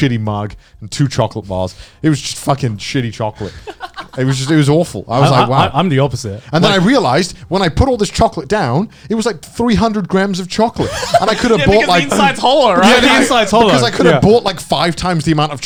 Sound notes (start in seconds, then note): 3.4 chuckling; 10.8 chuckling